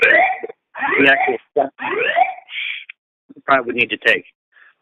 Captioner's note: sound of loud alarm - 1:08:44